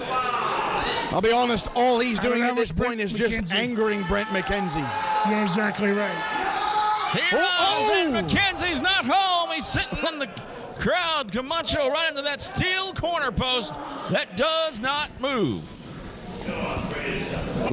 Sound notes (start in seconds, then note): 6.4 audience yelling